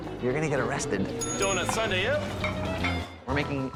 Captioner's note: bell dings